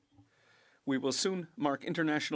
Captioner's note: speaking French